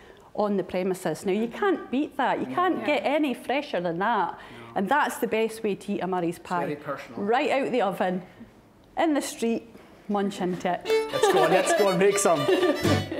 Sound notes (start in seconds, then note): 10.9 laughing; 12.9 lively violin music